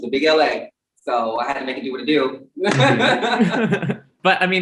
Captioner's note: laughs